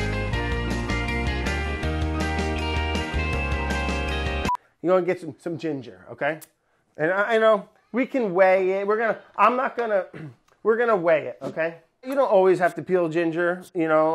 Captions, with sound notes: [beeping] You go and get some ginger, okay? And eh, and oh, we can weight it, we're gonna, I'm not gonna, we're gonna weigh it, okay. You don't always have to peel ginger.